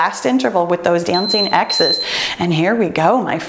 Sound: timer beeps

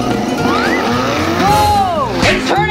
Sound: blender whirring

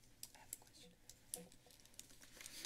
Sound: whispering

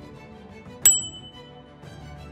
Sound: ding

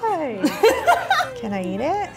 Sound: laughing

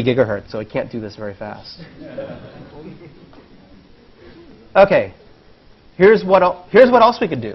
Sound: laugh

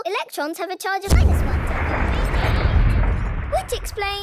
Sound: distant explosion

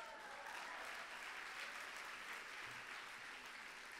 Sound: applause

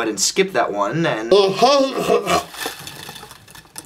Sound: voice is muffled

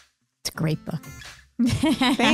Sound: laughter

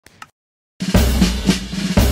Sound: click!

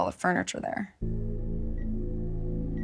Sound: ominous music; beeping

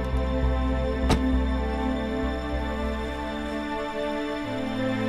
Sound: door slams

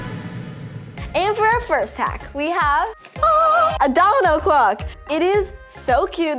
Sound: exclaims

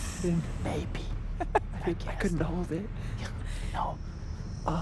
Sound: laughs

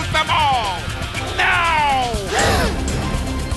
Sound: all gasp

